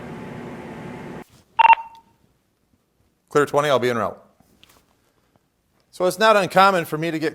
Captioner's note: beep